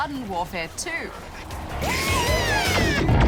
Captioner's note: squeals